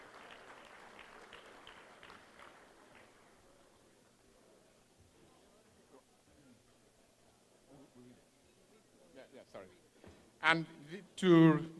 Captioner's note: applause